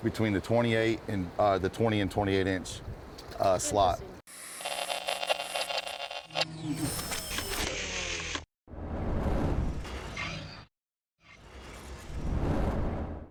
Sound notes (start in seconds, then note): 4.4 static and mechanical noise; 9.1 mechanical noise